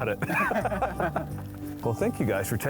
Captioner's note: men laughing